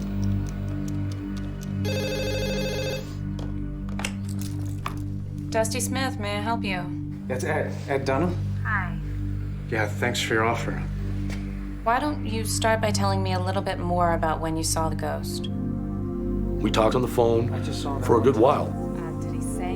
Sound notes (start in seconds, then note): 1.8 telephone rings